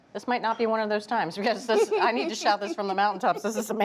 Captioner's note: laughing